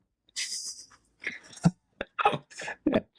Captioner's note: laughing